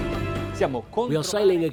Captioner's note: dramatic orchestral music; speaking foreign language